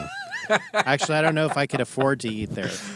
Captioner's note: laughing